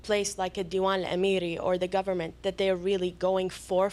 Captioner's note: non-english